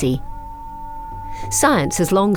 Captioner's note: howling